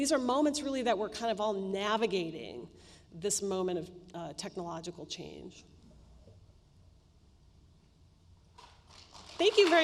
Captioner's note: applause